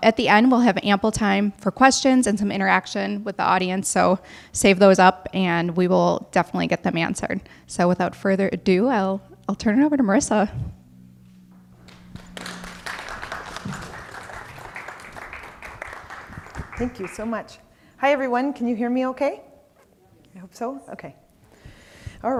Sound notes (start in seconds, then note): 11.6 audience clapping